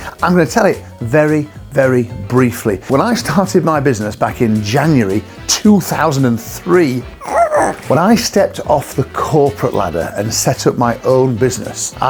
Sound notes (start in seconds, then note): 7.2 squeaks